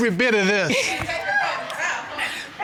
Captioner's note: overlapping chatter; laughter